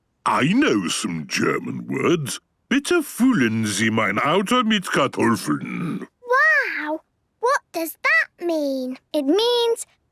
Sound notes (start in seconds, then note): 2.9 speaking German